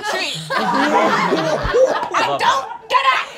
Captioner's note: all laughing